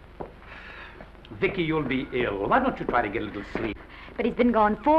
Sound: Oliver sighs

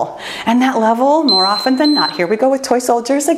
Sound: timer beeping

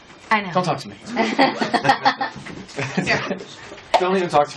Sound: laughs

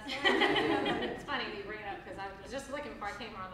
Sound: laughs

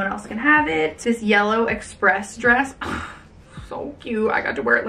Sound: sighs

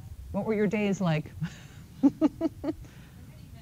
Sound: laughs

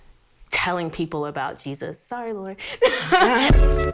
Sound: laughs; upbeat music

